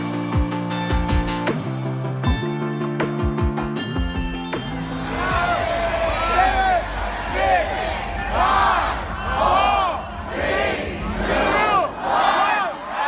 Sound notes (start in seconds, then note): 4.7 people counting down